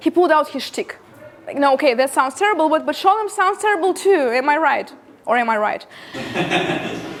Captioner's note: laughter